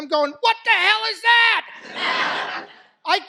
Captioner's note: laughter